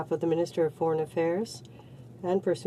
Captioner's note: speaking French